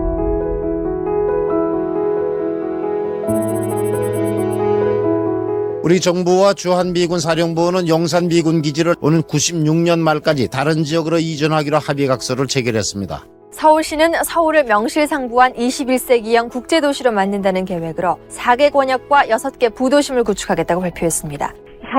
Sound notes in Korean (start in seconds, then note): 0.0 희망찬 음악; 3.3 다이얼 소리